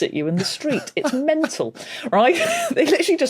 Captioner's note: giggles softly